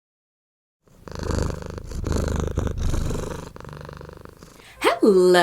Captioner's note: cat purring